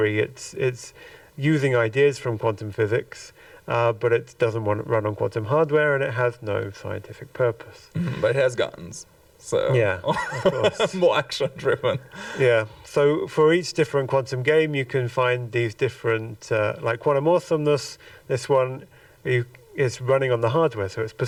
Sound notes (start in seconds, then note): 10.1 chuckles